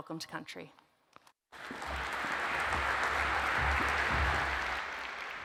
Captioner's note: audience applauds